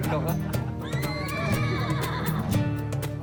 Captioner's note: men laughing; horse whinnies